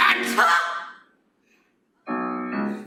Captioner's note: CC screams